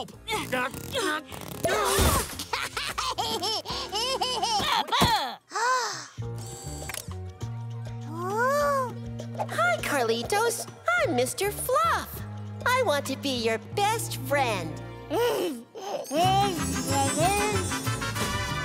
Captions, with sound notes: [laughing] [gasping] Ooh. Hi, Carlitos. I'm Mr. Fluff. I want to be your best friend. [babbling]